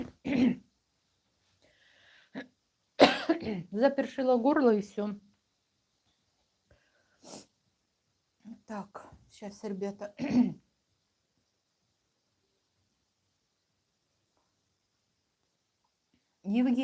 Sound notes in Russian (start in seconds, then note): 0.0 откашливается; 6.0 фыркает